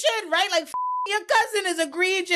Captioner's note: beep